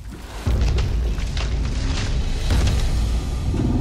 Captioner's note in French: craquements de tronc d'arbres